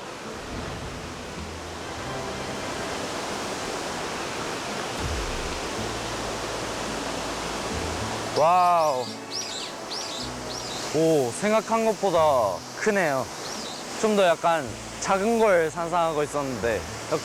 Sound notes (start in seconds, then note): 4.8 the water falls down powerfully